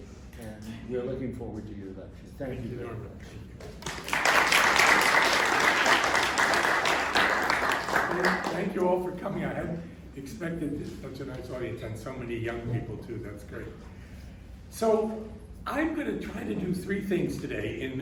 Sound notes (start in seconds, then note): 3.6 applause